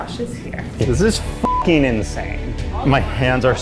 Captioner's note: beep